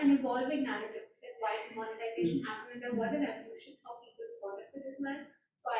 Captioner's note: faintly speaking